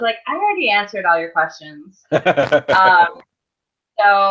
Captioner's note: laughs